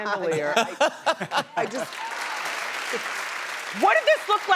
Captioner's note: laughter and applause